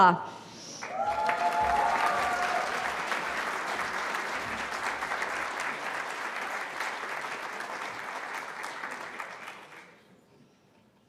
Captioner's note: cheering